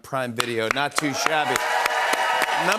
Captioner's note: cheers and applause